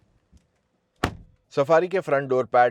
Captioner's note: door Thud